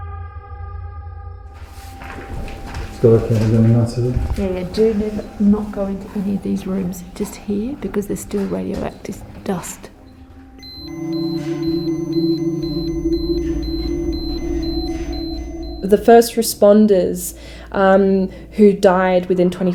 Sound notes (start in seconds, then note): 10.6 geiger counter beeping